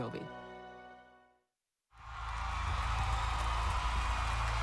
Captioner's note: cheers e aplauso